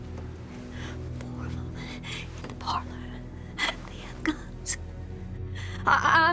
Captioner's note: whispers